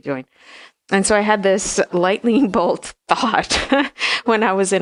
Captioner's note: laughs